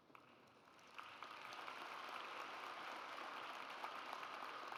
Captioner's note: audience applauds